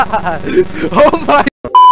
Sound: chuckles loudly; laughs

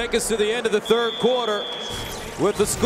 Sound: whistle blowing

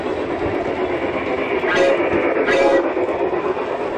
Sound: sound of a train horn

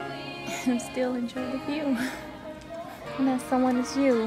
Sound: chuckling

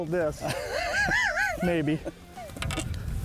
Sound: laughs

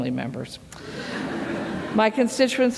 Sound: laughter

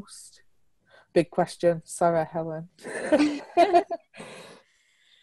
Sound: laughs

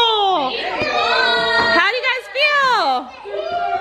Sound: family shouts happy statements

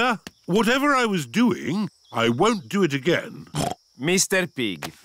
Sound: snorts

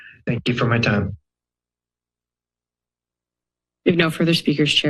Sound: silence

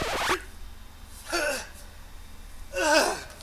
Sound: groaning

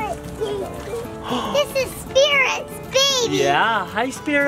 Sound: gasps

